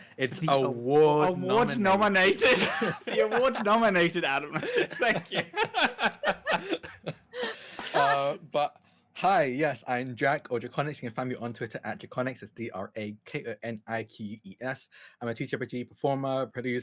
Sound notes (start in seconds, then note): 7.5 laughs